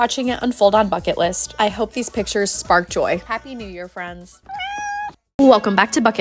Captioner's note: Moonie meows